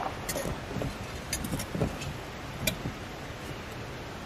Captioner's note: birds singing